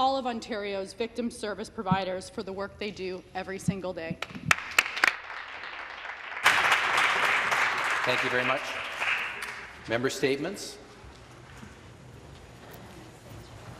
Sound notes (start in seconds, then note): 7.3 some Applause